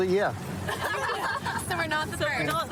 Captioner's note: laughter